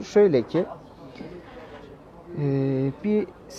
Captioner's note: crowd Noises